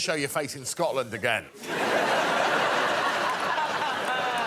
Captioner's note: audience laughing